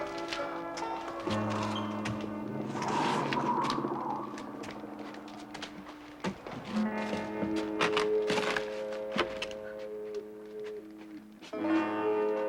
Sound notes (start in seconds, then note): 1.5 wind howling creepily; 8.5 suspenseful twangy music